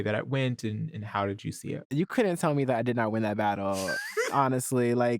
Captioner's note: laughs